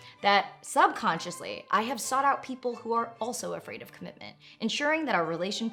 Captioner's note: none